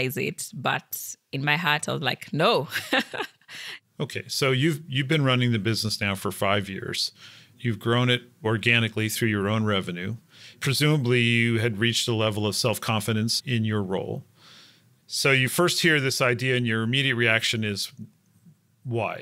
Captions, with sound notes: but in my heart I was like, no. [LAUGH] >> Okay, so you've been running the business now for five years, you've grown it organically through your own revenue, presumably you had reached the level of self confidence in your role. So you first hear this idea and your immediate reaction is why,